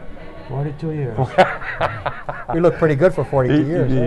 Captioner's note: laughter